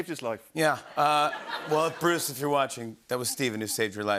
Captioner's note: laughter